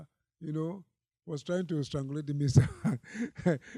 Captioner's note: laughs